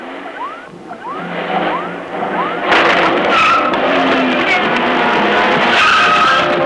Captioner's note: engine rumbles; electronic beeping; dramatic music; tires squealing